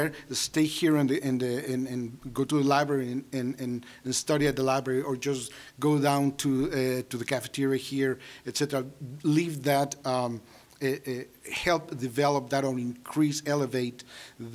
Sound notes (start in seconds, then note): none